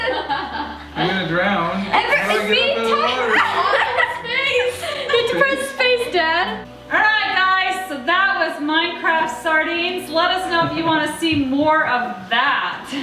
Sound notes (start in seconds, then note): 1.9 laughs